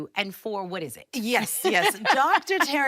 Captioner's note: laughs